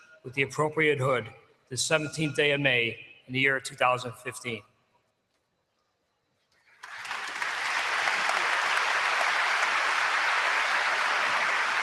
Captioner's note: applause